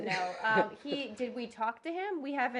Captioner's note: laughter